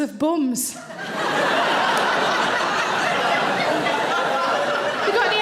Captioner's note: audience laughing